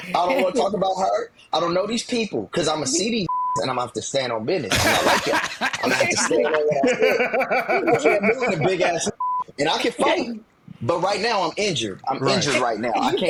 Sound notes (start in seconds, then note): 3.3 beep; 4.7 laughing